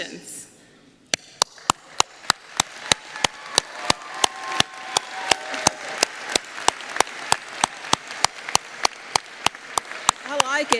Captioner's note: applause